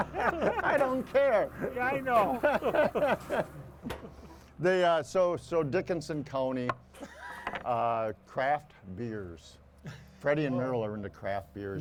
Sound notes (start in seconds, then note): 2.3 hosts laughing; 7.0 chuckles